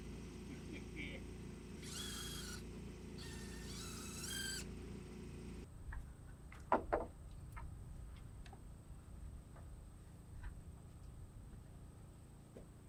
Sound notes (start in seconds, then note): 1.7 drill buzzing